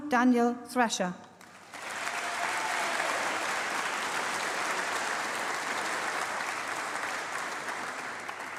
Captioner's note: applause